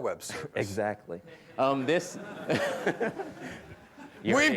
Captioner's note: laughter